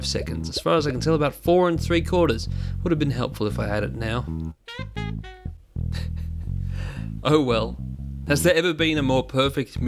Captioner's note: laughter